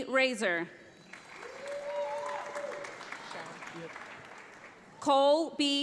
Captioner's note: audience applauds